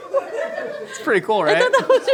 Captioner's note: laughing